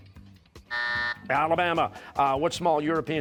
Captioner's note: buzzer